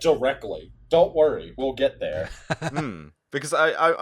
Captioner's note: laughter